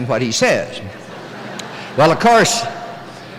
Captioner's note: laughter